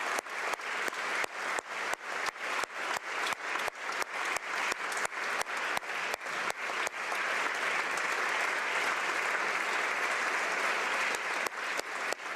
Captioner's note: applause